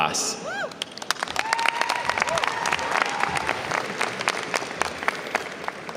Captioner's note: audience cheers and applauds